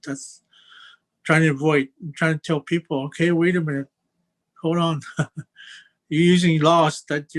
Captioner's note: chuckles